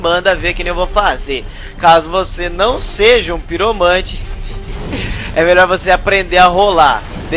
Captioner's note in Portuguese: risos